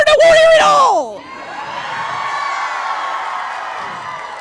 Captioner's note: crowd cheers in agreement